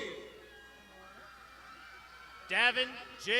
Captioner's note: crowd shouting